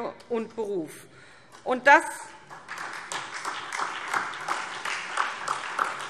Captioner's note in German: Beifall SPD